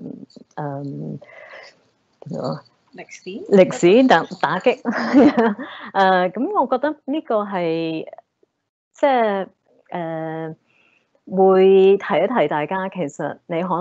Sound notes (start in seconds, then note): 3.0 Cantonese; 4.8 chuckles